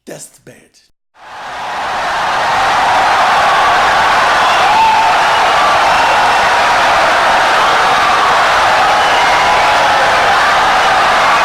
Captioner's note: wild applause and cheering for 17 seconds